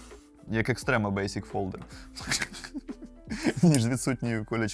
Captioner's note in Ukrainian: сміх